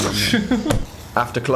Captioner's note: Dan and Phil laugh